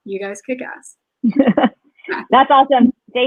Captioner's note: laughs